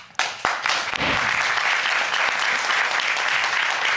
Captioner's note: crowd clapping